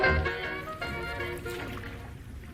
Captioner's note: waves lapping; jazz music fades out